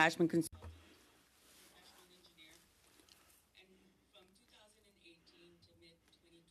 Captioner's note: speaking French